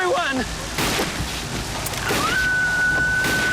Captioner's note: gun fires; woman screaming